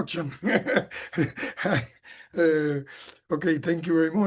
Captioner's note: chuckles